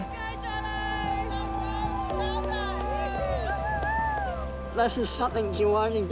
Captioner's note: cheering, applause